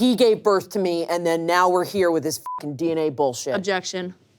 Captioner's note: beep